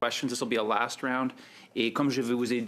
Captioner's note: speaking French